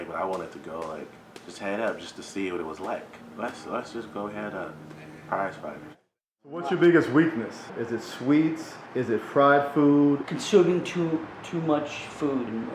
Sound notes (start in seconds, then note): 6.8 voiceover